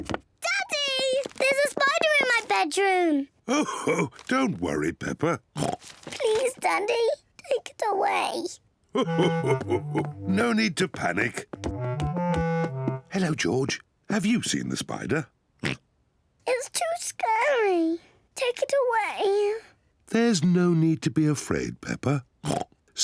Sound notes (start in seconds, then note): 3.5 chuckles; 5.5 oinks; 8.9 chuckles; 15.6 oinks; 22.4 oinks